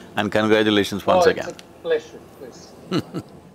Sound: Sadhguru laughs

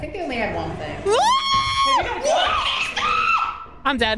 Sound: screams; heavy footsteps

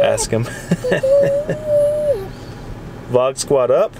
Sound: laughs

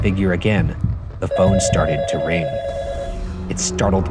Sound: phone ringing

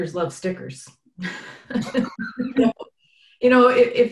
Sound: laughs

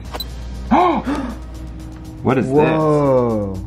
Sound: gasps

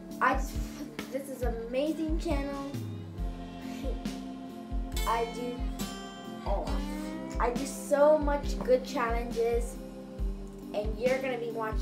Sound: ugh

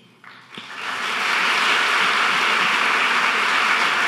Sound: audience clapping

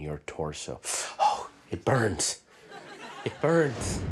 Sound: audience laughter

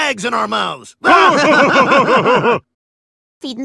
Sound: laughing like waldorf and statler

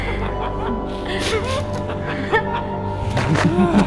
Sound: various evil giggles and chuckles; hostages sniffling

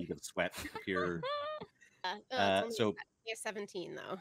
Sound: laughing

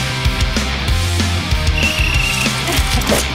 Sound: blows whistle

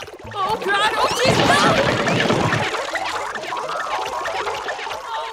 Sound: cartoon blows thudding

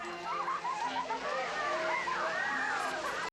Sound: children laughing, screaming

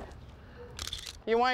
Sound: camera shutter clicks

